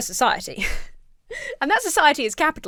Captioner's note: laughs